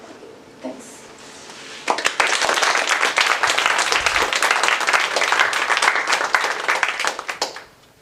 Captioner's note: applause